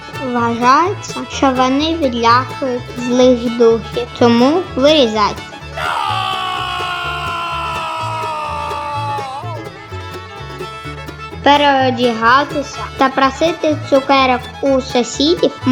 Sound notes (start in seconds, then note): 5.7 scream of ghosts